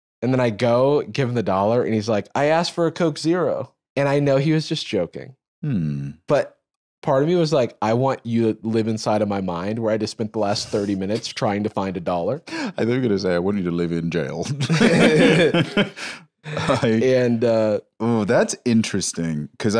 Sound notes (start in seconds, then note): 14.5 laughs